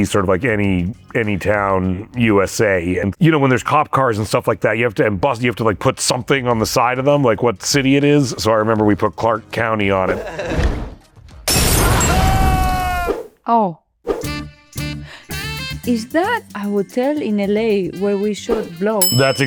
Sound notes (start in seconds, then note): 11.5 glass smashes